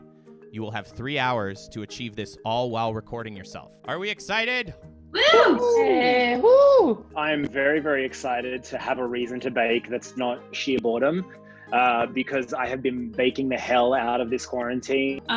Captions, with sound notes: You will have 3 hours to achieve this all while recording yourself. Are we excited? - (United cheering) - I'm very very excited to have a reason to bake that's not sheer boredom. Because I have been baking the hell out this quarantine.